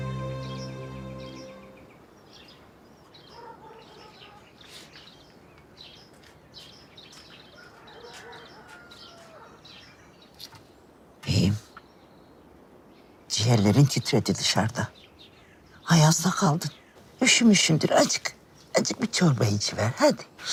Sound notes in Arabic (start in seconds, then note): 3.0 أصوات طيور; 5.1 أصوات كلب